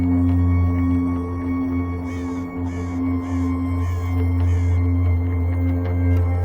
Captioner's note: gentle music continues; birds calling